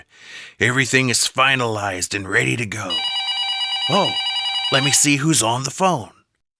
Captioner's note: phone ringing